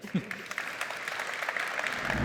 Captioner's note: applause